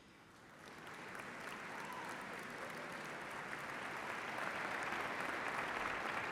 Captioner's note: applause